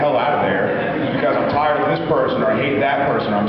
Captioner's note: laughs; laughs